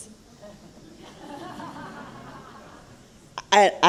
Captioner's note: laughter